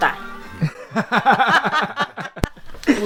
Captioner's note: laughs